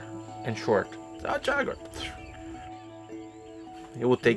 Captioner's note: whistles